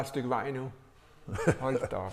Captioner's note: laughing